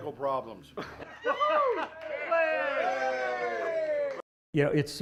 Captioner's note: cheers, celebration